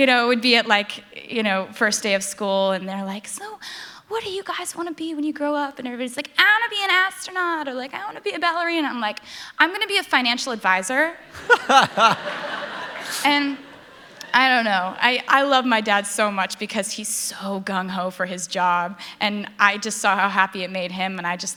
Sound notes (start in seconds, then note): 11.3 laughter